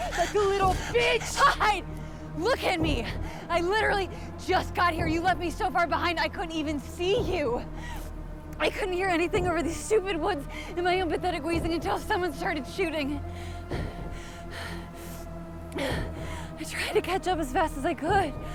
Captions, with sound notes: like a little bitch! - "Hide"? Look at me! I literally just got here! You left me so far behind, I couldn't even see you! I couldn't hear anything over these stupid woods and my own pathetic wheezing until someone started shooting! (heavy breathing) (tense music) I tried to catch up as fast as I could!